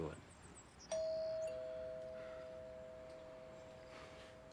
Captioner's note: doorbell rings